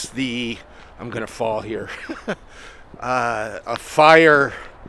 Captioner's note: chuckling